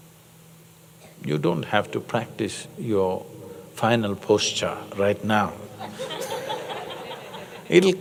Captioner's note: laughter